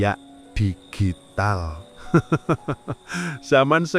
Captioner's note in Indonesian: tertawa